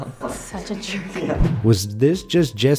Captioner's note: laughs